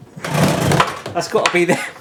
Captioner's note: door bangs